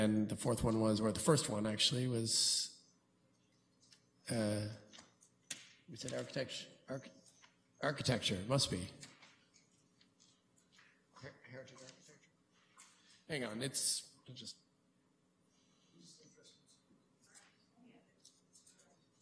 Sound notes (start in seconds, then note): 12.3 quietly